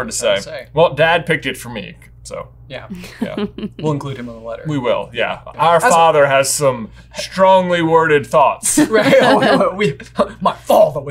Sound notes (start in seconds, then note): 2.9 laughing; 8.8 laughing